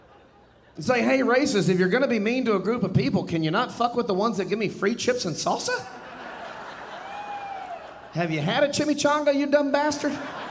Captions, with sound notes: I'll say, "Hey, racists, if You're gonna be mean to a group of people, can you not fuck with the ones that give me free chips and salsa?" (audience laughing and cheering) Have you had a Chimichanga, you dumb bastard?